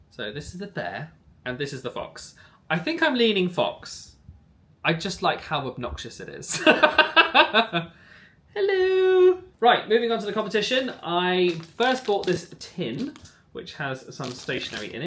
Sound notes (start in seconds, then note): 6.6 laughing